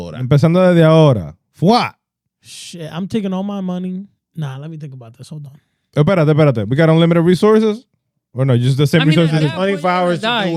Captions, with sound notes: Shit, I'm taking all my money. Nah, let me think about this, hold on. (Speaking In Foreign Language) We got unlimited resources? Or no, just the same resources. I mean, at that point you gotta die.